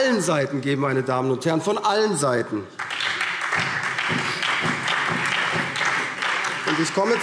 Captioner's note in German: Beifall SPD und vereinzelt Freie Demokraten